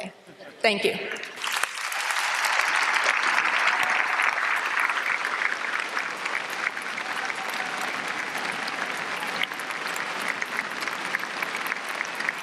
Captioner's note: applause